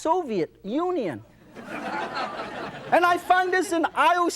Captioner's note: audience laughs